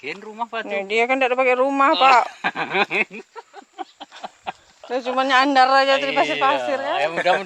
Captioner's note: all laughing